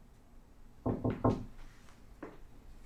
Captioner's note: knocking